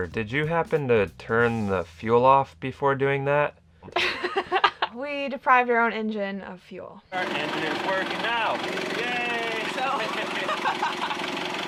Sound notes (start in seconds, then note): 3.9 laughing; 9.0 laughs